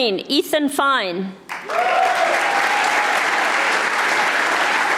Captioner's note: audience applauding